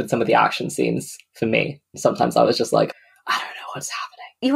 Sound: whispers

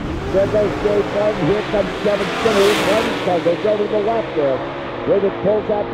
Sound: car engines

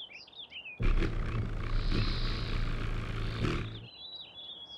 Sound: bird song; wings flutter; bird song

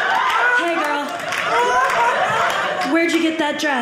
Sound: audience laughing

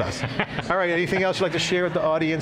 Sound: laughter

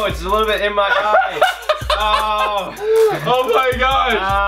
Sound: laughs

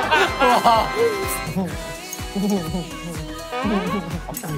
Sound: slurping

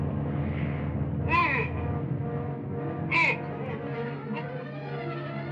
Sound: grunting

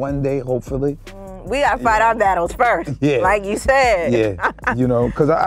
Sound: laughs

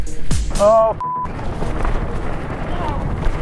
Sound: beep

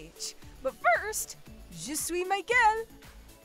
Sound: speaking in French

